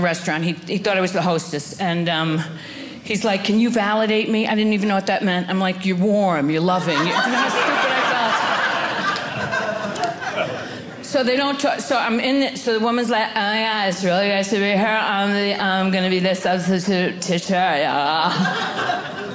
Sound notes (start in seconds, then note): 8.6 audience laughing; 13.0 valley Girl accent